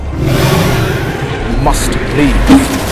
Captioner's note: creature Roaring